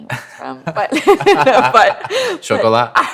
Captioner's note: laughter